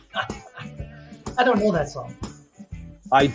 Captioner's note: laughing